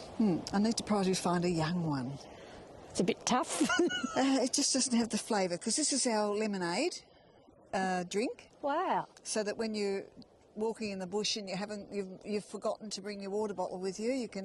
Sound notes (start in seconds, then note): 4.2 laughs